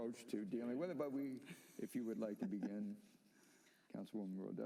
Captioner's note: laughter